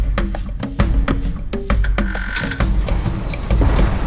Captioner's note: bird calls